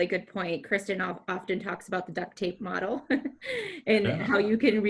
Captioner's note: chuckles